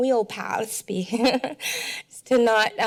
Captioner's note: laughs